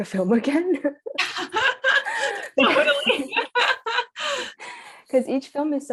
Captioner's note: laughter